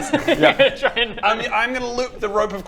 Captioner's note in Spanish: entre risas